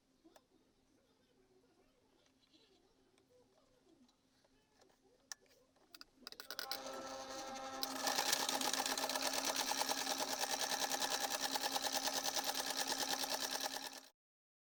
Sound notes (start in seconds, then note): 6.5 sewing sound